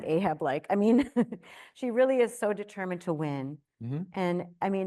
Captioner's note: chuckles